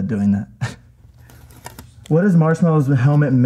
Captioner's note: sticker rips